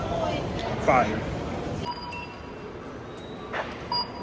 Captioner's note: alarm; alarm